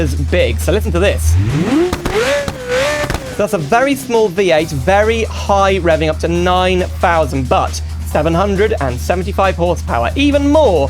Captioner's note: engine Revs